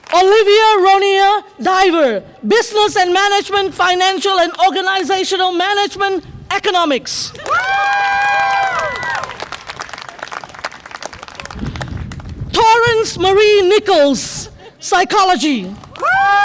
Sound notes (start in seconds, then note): 7.4 audience applause and cheer; 16.2 audience applause and cheer